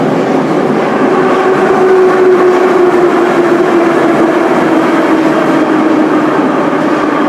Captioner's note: braking - arrival at the station